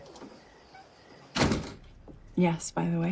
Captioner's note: door slams